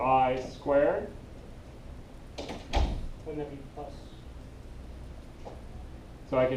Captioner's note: background talking